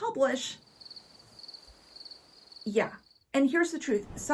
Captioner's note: crickets chirping